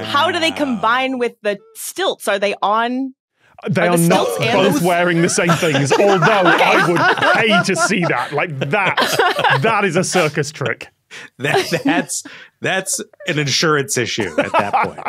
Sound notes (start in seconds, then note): 8.5 group laughing